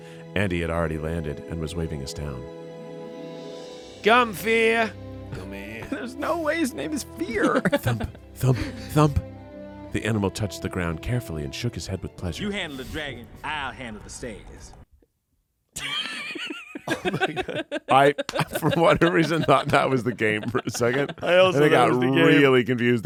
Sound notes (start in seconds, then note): 15.8 everyone laughs